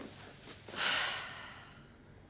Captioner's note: exhales audibly